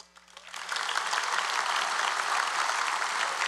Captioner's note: applause